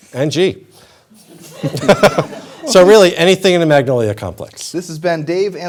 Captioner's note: laughter